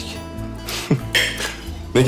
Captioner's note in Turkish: Gülme sesi